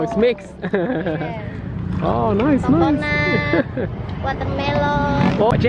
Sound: giggles

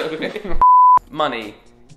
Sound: laughing; beep

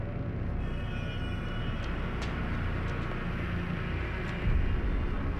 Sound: horns honking

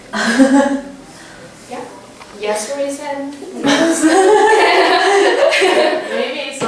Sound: laugh

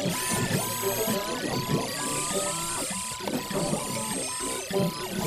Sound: electronic Beeping & Whirring

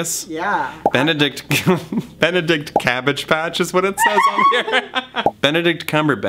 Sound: giggles; screech-laughs

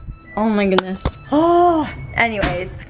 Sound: groans

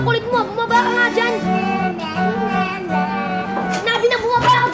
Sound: jeering

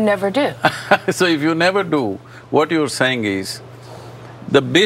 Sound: laughs

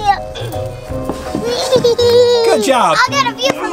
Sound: Baby Gecko laughs

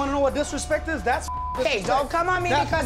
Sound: beep

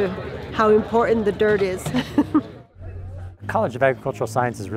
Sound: chuckles

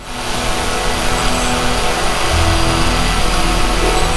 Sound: drone buzzing

